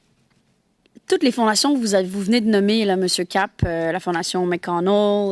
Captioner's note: speaking French